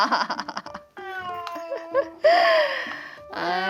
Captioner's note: meow